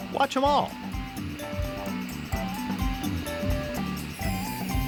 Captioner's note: machine buzzing